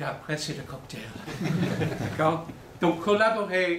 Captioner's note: laughter